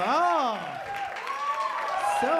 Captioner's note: applause